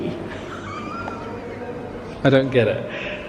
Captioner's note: laughing